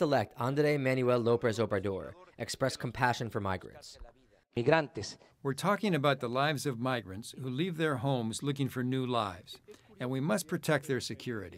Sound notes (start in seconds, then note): 5.1 through translator